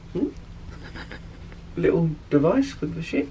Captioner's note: chuckles quietly